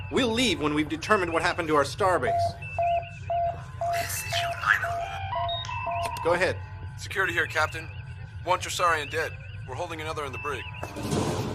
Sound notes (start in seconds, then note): 5.9 click; 6.9 comm voice